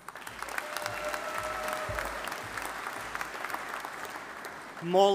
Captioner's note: audience applauding